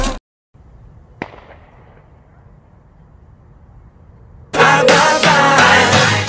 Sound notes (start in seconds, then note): 1.2 sound of gunshot